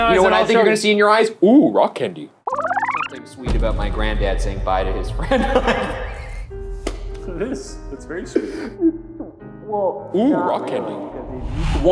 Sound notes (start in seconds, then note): 2.4 tape rewinding; 5.2 laughing